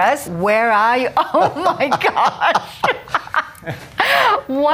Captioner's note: laughing